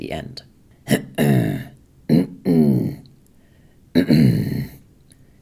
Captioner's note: reflux noises